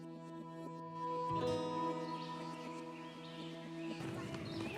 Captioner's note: birds chirping